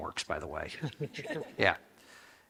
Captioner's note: people laugh